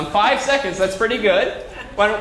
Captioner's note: laugh